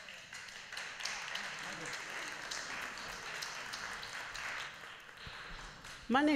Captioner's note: applause